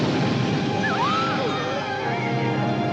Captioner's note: woman screams; dramatic music